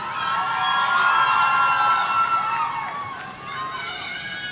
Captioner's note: audience cheering